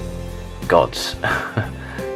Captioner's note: giggles